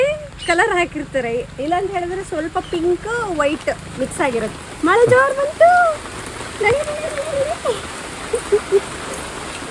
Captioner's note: laughs